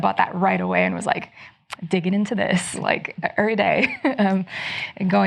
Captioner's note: chuckles